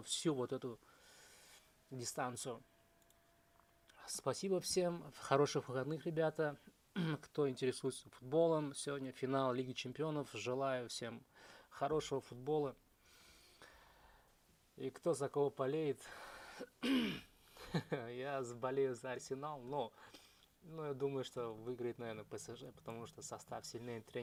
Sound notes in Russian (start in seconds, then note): 16.8 откашливается